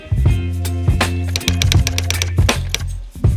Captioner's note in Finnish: kirjoituskoneen naputusta